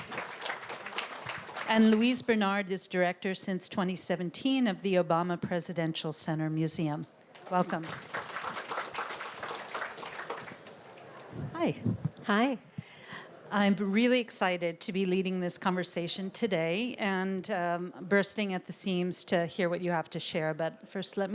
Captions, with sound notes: Welcome. And Louise Bernard is director since 2017 of the Obama Presidential Center Museum. Welcome. (Applause.) Hi. I am really excited to be leading this conversation today. And bursting at the seams to hear what you have to share.